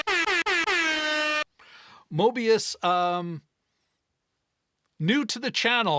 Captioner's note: air horn blares